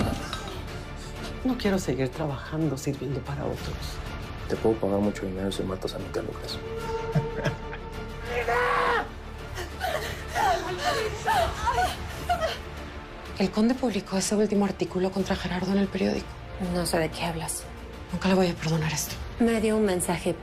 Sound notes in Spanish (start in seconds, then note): 10.0 Quejidos